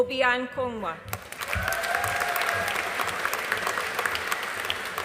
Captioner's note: audience applauding